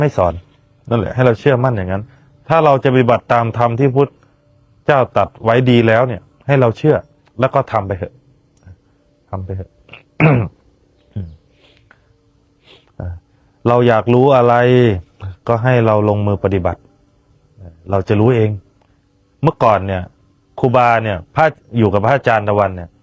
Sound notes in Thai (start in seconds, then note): 12.6 เสียงสูดหายใจ